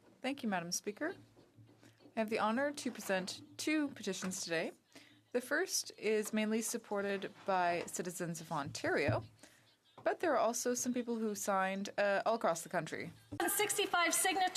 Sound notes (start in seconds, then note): 8.2 speaking French